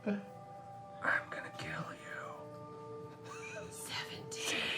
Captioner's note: whispering